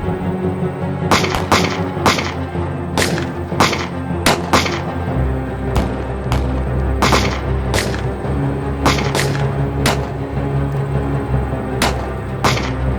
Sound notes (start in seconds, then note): 1.1 gunshot cracking continues; 5.0 intense music continues